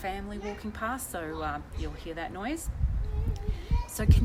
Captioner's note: distant talking